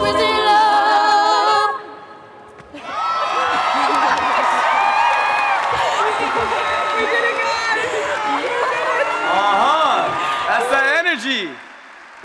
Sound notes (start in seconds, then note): 2.9 applause and Cheering